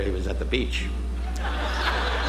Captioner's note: audience laughing